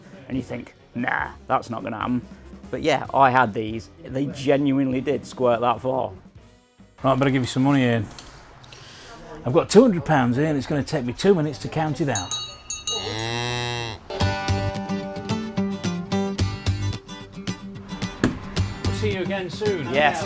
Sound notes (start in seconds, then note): 12.1 bell rings; 12.8 bull moos; 15.7 happy music